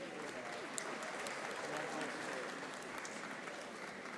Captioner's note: audience applauding